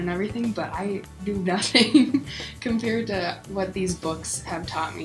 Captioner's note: laughs